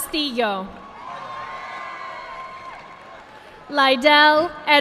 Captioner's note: audience clapping